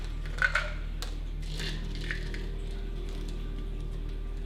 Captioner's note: pills clattering